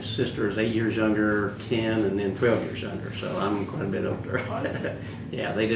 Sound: laughs

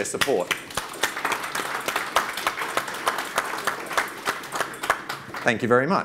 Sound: audience claps

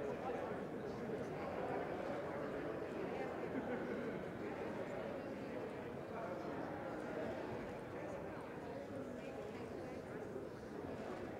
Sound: indistinct chatter

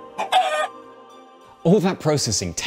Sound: bird squawks

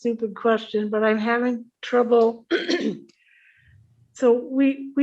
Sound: clears throat

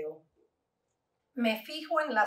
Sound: Spanish

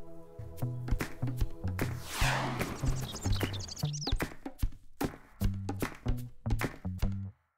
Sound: upbeat music; birds chirping

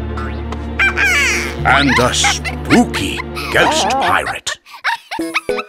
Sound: quacks; laughing

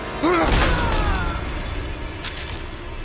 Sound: screaming

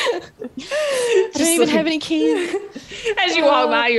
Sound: laugh

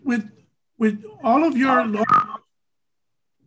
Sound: static

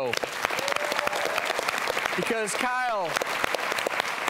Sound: audience applauds

